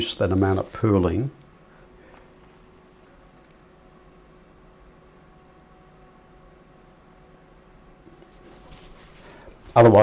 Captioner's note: silence